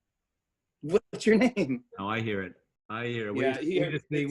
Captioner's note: chuckling